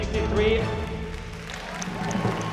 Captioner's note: cheering